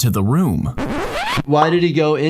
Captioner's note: vinyl record scratching